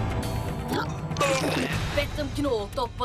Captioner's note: vomits